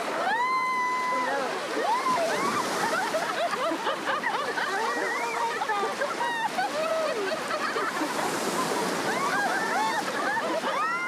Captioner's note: speaking in Spanish